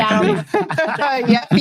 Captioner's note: laughing